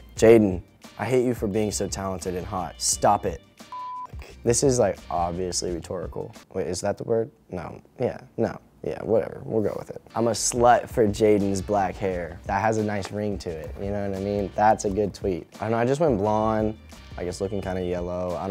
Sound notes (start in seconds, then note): 3.7 beep